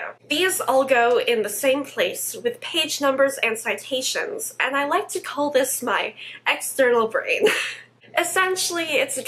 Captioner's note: laughs